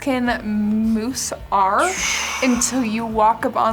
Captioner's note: scoffs